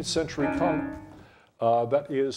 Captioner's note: bell dings